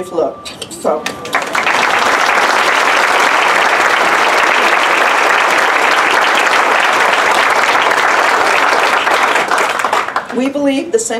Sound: applause

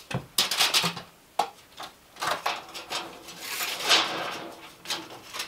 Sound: tape measure rattling

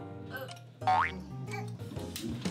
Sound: burp

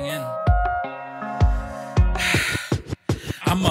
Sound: heavy sigh

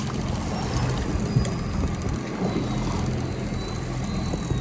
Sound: water sloshing

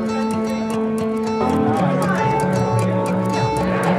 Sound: upbeat music; crowd chatting

